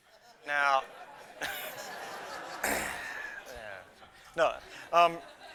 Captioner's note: laughter